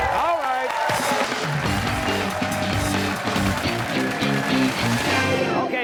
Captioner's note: cheers and applause